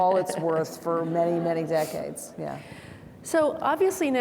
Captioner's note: laughs; audience laughing